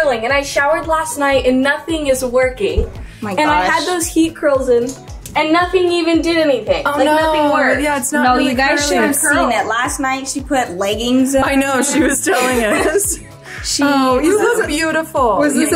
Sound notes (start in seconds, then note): 11.6 group laughs